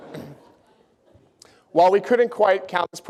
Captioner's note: laughter